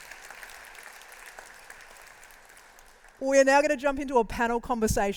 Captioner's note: applause